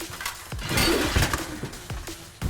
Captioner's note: sword whooshes; upbeat music continues